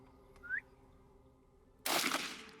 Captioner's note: man whistles; rifle fires